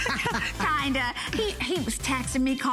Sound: laughter

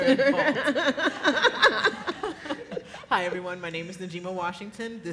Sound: laughs

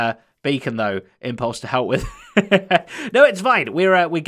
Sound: chuckles

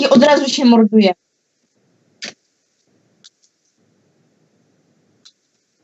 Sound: Sound of the Rubik's Cube

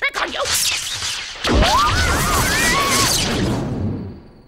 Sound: electricity

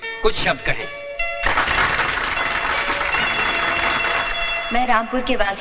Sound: applause

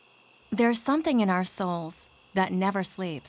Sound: crickets chirping; voiceover

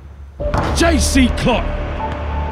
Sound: soft dramatic music; ball bouncing; ball thudding

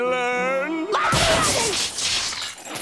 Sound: screaming

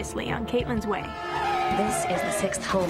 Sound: car screeching

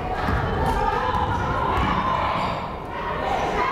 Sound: crowd chattering

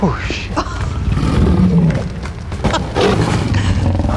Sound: Kory laughs

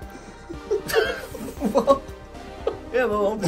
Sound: both laughing

